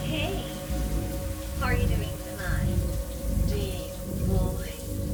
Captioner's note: woman chattering